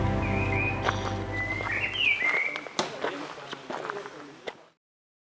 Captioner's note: singing birds around the castle